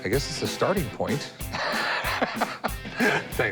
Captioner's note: laughs